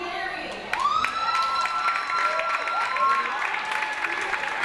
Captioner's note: audience applauds